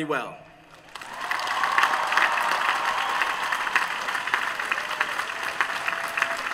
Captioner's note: applause